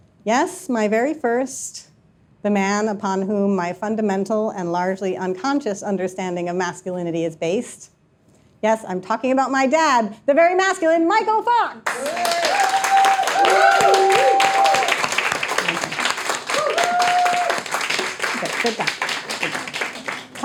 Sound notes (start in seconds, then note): 18.3 audience applauding, cheering